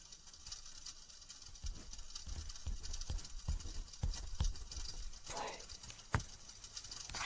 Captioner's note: fire